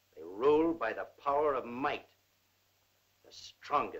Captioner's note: none